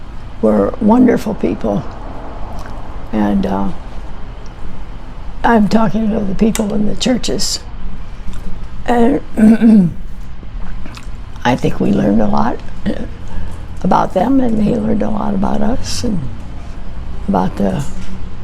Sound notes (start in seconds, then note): 9.3 clears throat